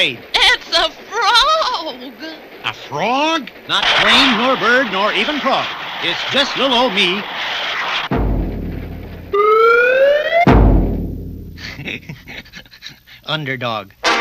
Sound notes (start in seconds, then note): 8.0 crash!; 11.6 laughs!